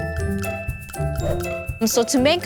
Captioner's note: joyful music; logo swooshes